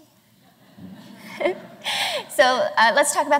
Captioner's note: laughter